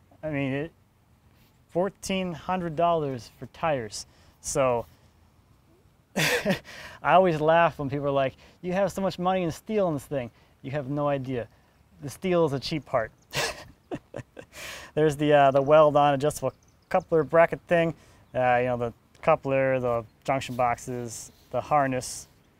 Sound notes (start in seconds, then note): 13.3 snickers